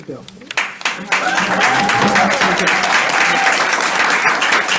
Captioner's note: committee applauds